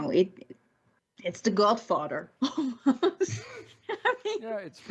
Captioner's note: laughs